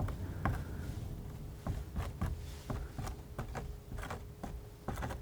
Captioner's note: scratching